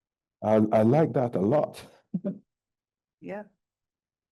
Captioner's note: chuckling